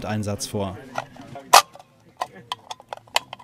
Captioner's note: mechanical clicking